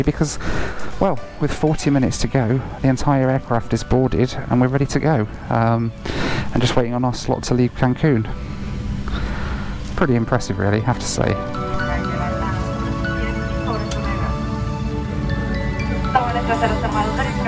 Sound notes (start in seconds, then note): 12.8 attendant speaking Spanish